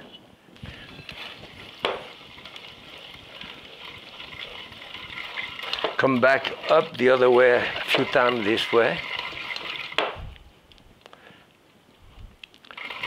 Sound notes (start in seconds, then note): 0.9 food mill whirring; 9.1 food mill whirring